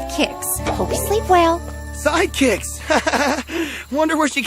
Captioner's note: chiming